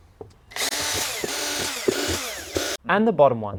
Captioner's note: drill whirring